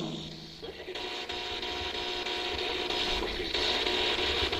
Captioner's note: static buzzing